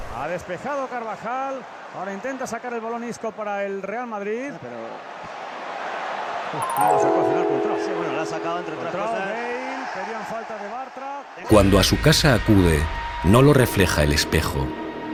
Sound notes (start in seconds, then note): 6.1 ominous sound